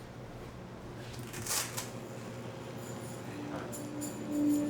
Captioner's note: velcro tearing